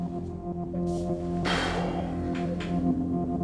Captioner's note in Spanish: Resoplido